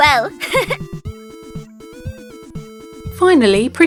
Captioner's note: laughing